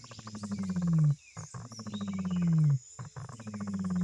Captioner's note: deep, resonant rumbling